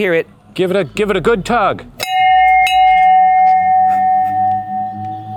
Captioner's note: bell chimes